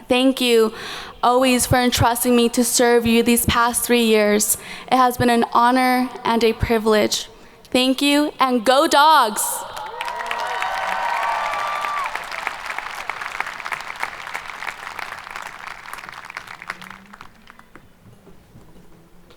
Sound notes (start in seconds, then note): 9.6 audience cheering